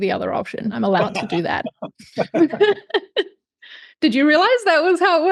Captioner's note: laughs